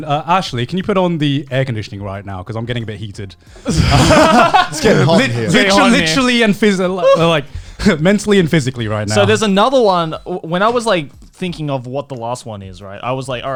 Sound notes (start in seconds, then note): 3.6 all laughing